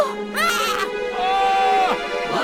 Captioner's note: candles screams!; mephone screams??; mysterious creature screams!